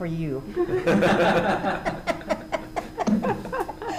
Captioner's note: group laughing